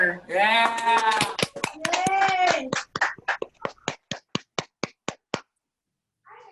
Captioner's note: cheering; clapping